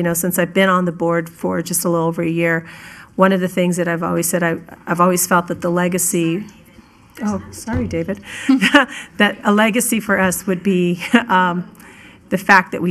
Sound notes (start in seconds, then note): 8.4 laughing